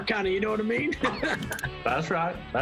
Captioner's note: laughter